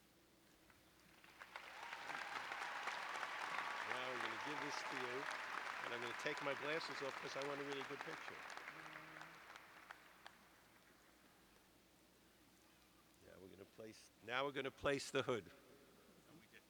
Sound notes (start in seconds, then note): 4.6 cheers and applause